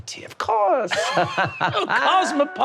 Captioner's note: laughing